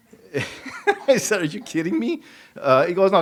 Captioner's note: laughs